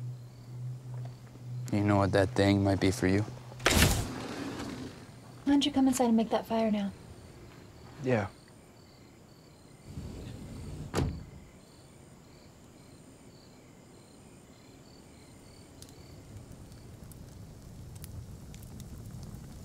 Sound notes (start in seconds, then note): 3.6 door sliding; 8.9 crickets chirping; 9.9 door sliding; 11.6 crickets chirping; 16.7 fire crackling